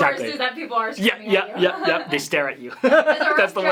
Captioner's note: laughter